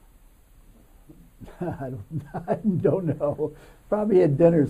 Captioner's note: laughs